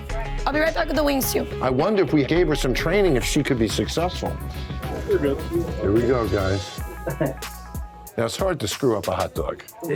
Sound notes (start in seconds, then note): 7.1 scoffs